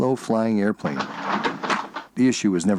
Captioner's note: sound of window opening